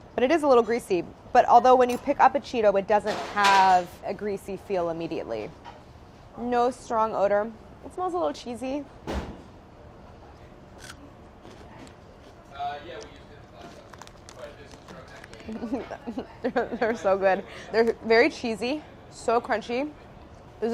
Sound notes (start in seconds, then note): 10.4 crunching noise; 15.4 giggling